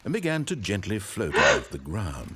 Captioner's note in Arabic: شهقه